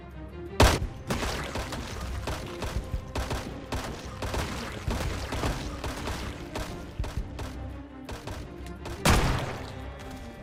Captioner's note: rifles firing